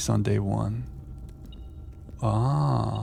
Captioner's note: beeping